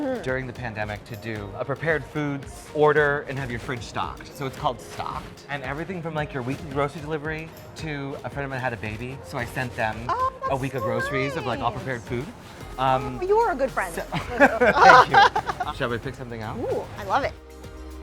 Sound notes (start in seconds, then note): 14.1 laughing